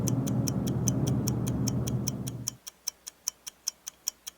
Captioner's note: ticking sound